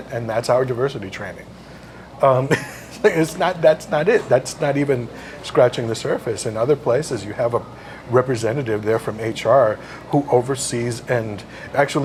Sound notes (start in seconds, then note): 2.4 laugh